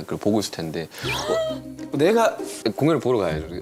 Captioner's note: gasp